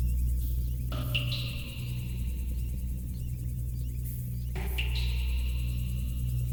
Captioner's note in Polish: Powtarzające się elektroniczne odgłosy kapania